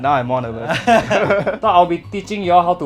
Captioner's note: nervous laughter